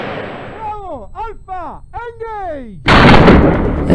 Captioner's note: gunshot; yelling; gunshot